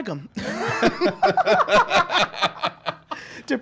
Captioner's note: laughs